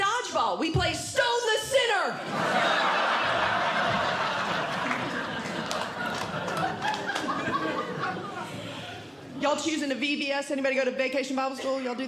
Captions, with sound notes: dodgeball. We play stone the sinner. [Audience Laughing] Y'all choosing the VBS? Anybody go to vacation bible school?